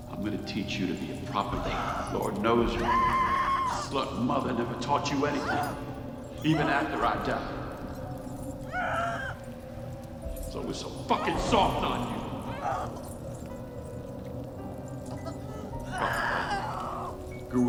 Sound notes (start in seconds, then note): 8.6 Heather crying; 15.8 Heather screaming